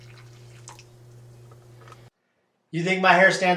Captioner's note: coffee trickles